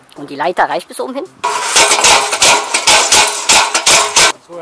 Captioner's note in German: Leitergeklapper